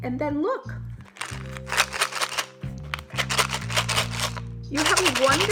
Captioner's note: items rattle in bottle